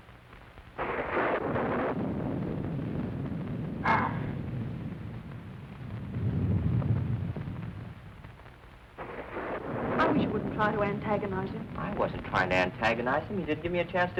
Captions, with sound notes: (thunder crashing) (wolfman snarls) - I wish you wouldn't try to antagonize him. - I wasn't trying to antagonize him. He didn't give me a chance to finish.